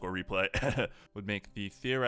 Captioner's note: shameless promotion cough